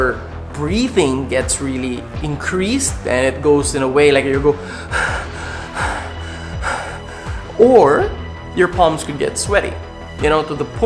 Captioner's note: breathing style